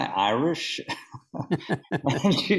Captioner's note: laughing